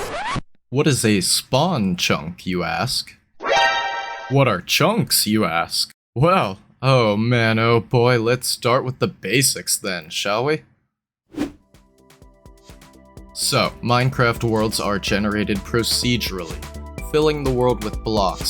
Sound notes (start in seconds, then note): 0.0 record Scratch